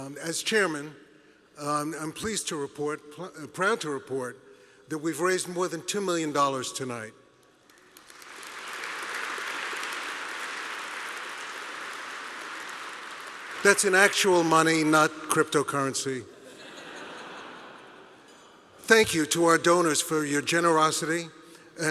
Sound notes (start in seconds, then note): 7.7 applause; 16.3 audience laughing